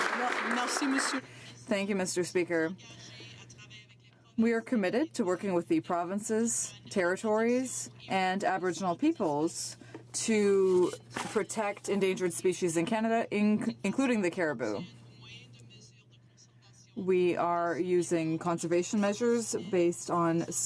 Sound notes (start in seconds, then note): 0.0 some Applause